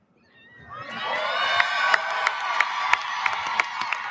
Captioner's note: audience lauds